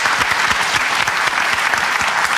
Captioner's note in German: Applaus